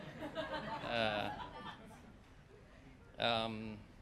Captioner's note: laughter